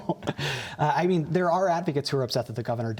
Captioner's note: laughter